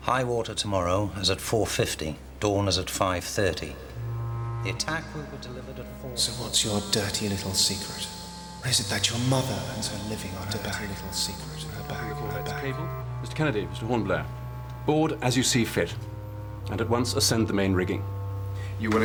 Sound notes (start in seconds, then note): 6.7 voice fades; 12.7 echoes